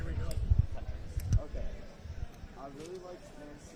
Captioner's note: background chatter